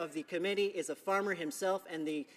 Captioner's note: speaking in french